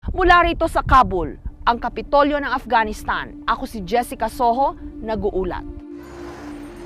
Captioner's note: speaking in foreign language